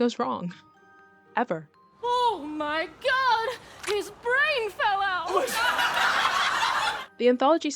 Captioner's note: crowd laughs